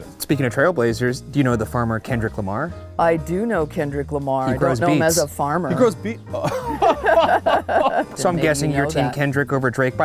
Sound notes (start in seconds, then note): 6.4 laughter